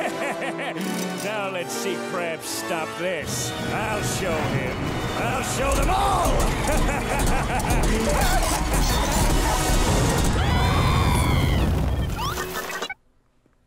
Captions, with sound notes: [laughing] Now, let's see Krabs stop this. I'll show him. I'll show them all! [laughing] [screaming]